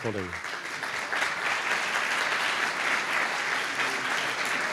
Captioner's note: applause